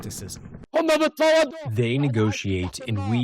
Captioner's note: through translator